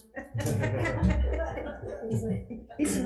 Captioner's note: everyone laughing